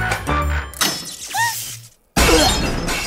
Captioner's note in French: fracas